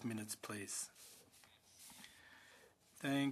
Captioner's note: speaking French